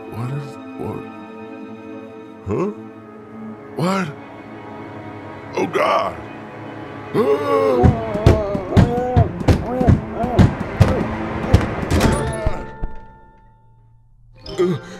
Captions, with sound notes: What is..? What..? Huh?! What?! Oh God! *Roar in terror* Let me out! *Banging and shouting* Uhh!